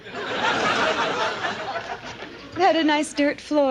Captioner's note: audience laughs